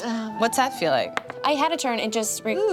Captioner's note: sighs